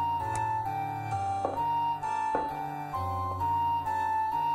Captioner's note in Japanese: 足音：コツコツ･･･